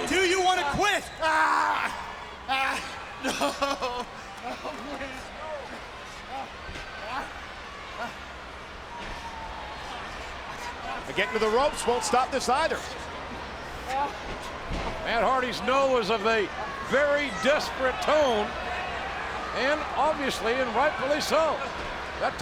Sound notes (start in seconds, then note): 1.5 Matt groans; 6.3 audience chattering